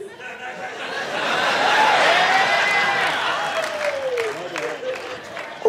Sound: audience cheers, woos

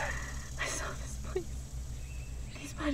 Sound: cries

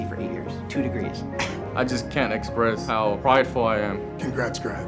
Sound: chuckles

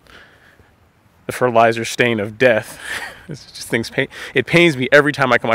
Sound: laughing

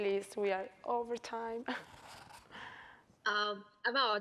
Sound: laughing

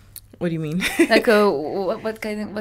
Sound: laughs

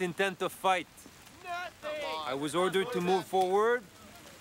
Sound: warriors shouting

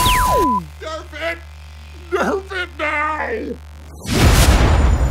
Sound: voice distorted

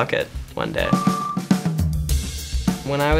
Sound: beeps

